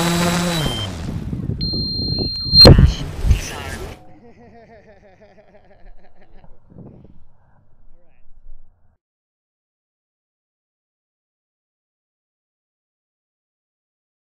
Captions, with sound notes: [Robot Voice] Vehicle crash. Disarmed [Laughter] Thanks for watching! Please like and subscribe!